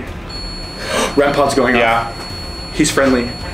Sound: gasps

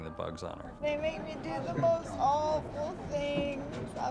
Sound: whining

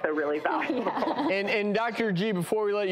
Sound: laughing

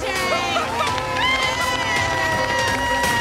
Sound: cheering; clapping

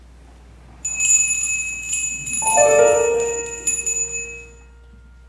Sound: bell rings

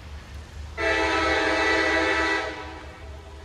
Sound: train horn blaring

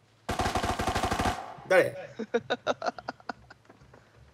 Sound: laughter

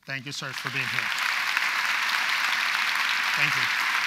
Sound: audience applauds

